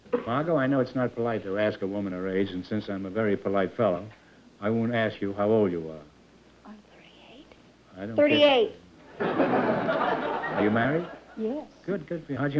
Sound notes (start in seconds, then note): 6.6 whispering; 9.0 laughter